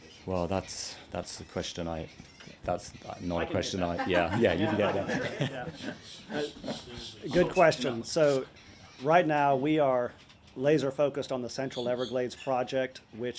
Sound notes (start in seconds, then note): 4.0 audience laughs